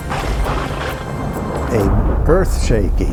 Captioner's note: thunder rumbling